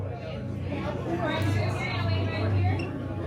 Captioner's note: crowd chattering